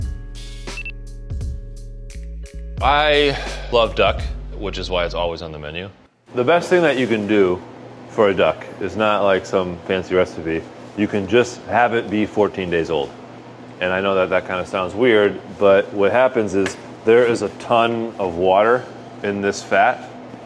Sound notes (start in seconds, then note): 0.7 timer beeps